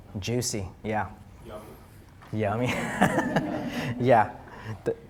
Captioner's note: all laughing